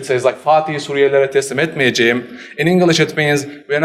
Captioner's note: speaks foreign language